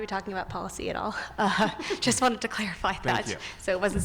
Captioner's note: laughs